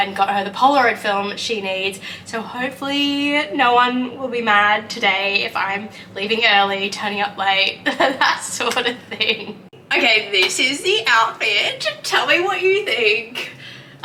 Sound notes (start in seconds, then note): 7.9 laughs